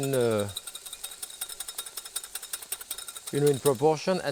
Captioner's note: whisk clinking